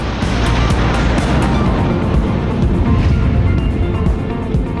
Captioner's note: roar of jet's afterburner engine